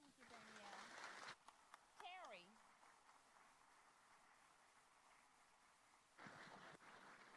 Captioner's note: applause